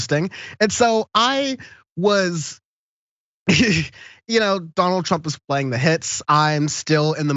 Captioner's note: laugh